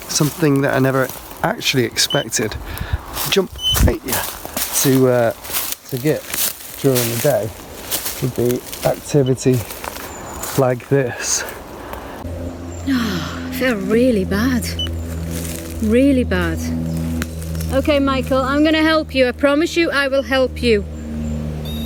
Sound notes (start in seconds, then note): 17.0 birds chirping; 21.6 beep